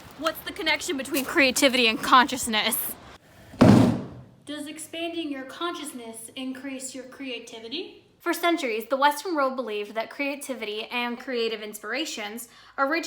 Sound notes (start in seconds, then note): 3.5 chair bangs